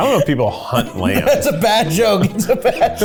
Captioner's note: lauhging